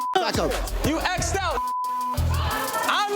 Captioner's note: beep